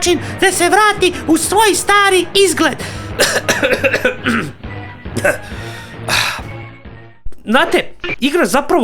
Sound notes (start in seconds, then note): 3.0 coughs; 3.2 clears throat